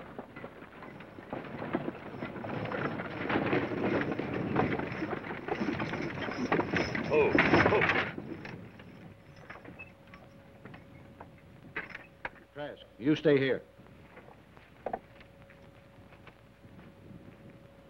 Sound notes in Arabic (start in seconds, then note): none